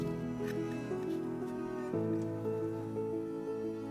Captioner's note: tool scraping